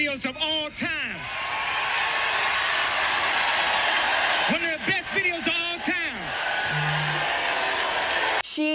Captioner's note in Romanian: Aplauze